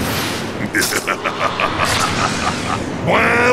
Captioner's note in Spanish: Se Ríe